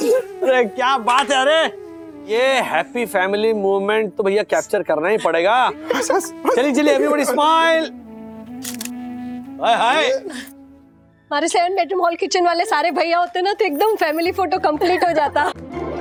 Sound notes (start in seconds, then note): 8.6 camera clicking